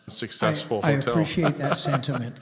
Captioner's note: chuckles